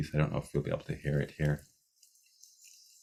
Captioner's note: bird sounds